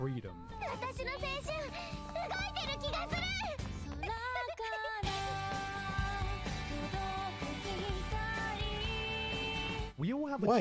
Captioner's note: speaking in foreign language